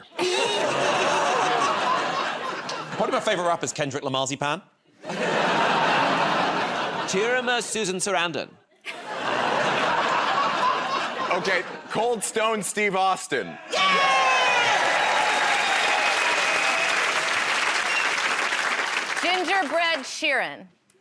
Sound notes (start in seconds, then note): 0.2 laughter; 5.0 laughter; 8.6 laughter; 15.7 cheers and applause